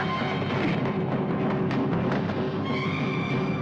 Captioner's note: scream